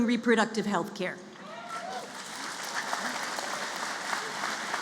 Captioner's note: applause